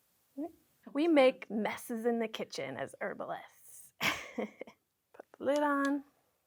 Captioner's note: chuckles